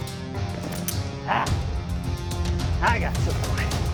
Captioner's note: gun clicking empty